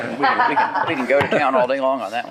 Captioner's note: shared laughing